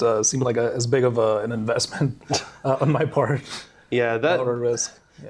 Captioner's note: laughs